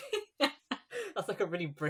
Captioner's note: laughing; laughs